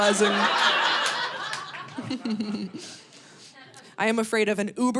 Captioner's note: audience laughing